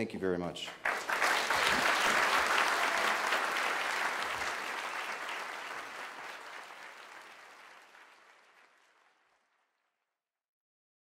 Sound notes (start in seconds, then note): 3.1 applause